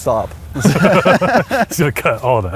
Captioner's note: laughing